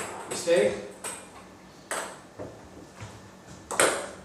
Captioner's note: ball ping pong hitting